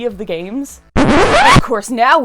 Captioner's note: record scratch